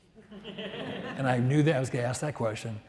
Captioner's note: audience laughs